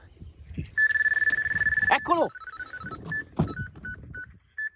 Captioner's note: alarm going